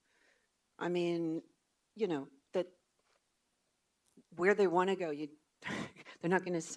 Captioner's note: laughs